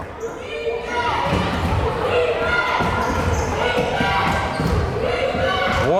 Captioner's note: crowd chanting defense